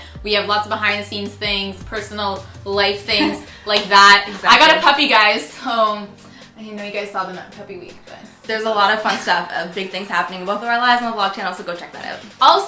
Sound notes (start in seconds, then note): 7.8 laughs